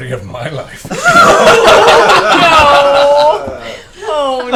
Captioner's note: all laugh